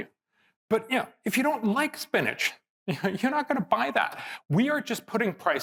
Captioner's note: laugh